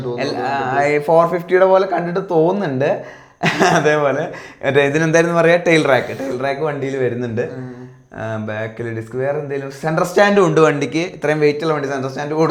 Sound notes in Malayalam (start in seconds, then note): 3.4 പൊട്ടിച്ചിരി